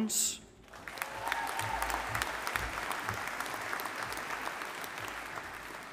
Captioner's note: audience applauding